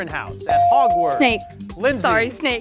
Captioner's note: bell ring